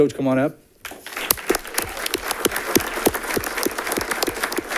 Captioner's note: audience clapping